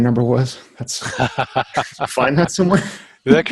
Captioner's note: laughing